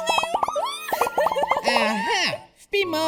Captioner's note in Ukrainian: Хіхікає